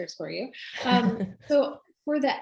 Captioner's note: laughs